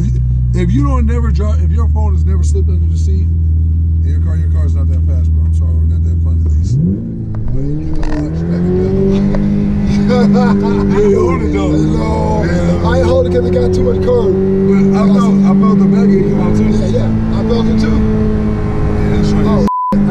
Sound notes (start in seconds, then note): 5.9 engine roars; 5.9 murmurs; 9.8 laughing; 19.2 beeps